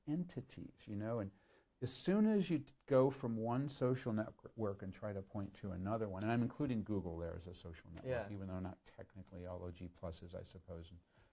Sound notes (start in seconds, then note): none